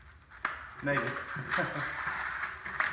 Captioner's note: haha